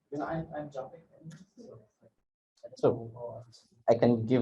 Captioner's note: faintly speaks; faintly speaks